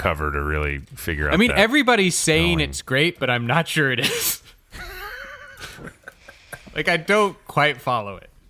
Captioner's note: laughs